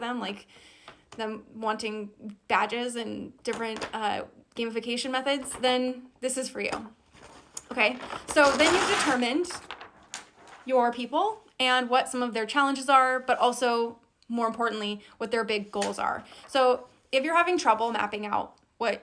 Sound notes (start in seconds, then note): none